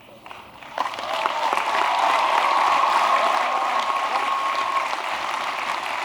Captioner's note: applause